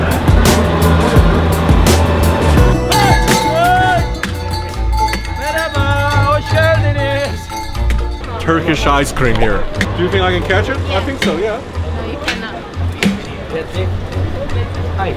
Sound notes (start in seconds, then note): 2.5 vendor yelling; 5.3 speaking foreign language